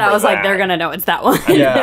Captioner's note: chuckles